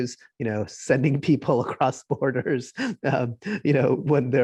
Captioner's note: laughing